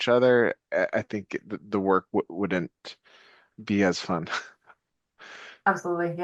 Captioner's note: chuckles